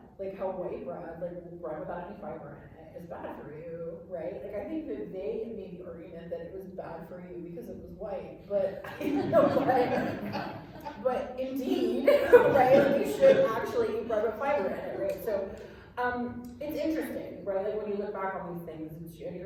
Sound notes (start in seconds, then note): 8.8 laughter